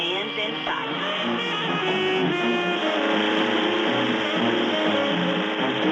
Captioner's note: boat engine rumbling